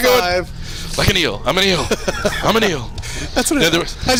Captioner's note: laughs